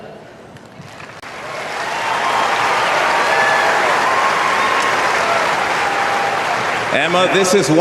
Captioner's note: applause